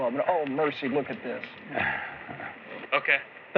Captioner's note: chuckles